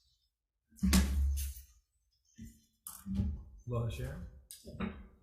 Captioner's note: desk thuds